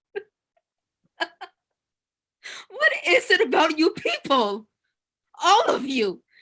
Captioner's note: laughs